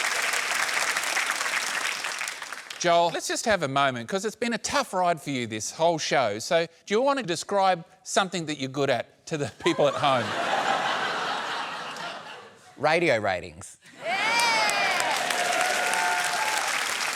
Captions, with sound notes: Joel, let's just have a moment, 'cause it's been a tough ride for you this whole show. So do you want to describe something that you're good at to the people at home? (LAUGHTER) Radio ratings. Yeah! (APPLAUSE)